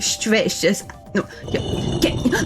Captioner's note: muttering to self